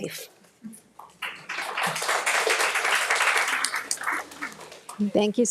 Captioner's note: audience applauds